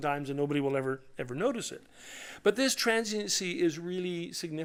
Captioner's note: none